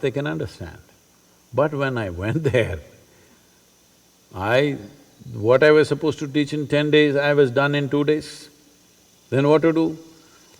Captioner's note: laughs